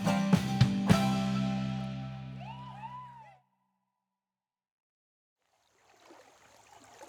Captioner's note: upbeat bluegrass music; audience cheers; water gurgling